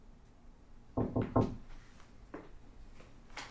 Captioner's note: knocking